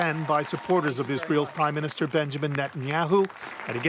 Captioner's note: applause